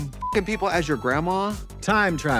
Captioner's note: beep